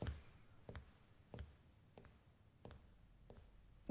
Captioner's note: footsteps walk away